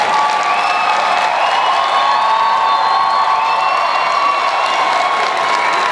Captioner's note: audience cheering and applause